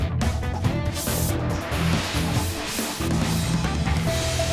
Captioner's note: graphic swooshes